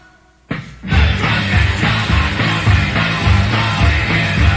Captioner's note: shouting